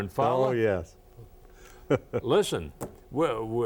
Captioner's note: laughing